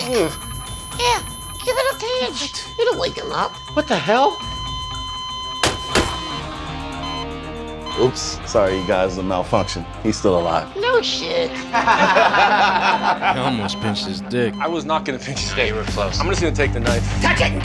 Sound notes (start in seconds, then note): 6.6 slow beeping; 11.5 laughter